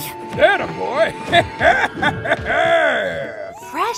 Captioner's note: laughs